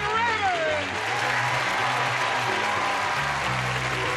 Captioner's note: cheering and applause; upbeat music